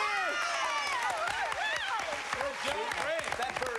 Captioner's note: cheers and applause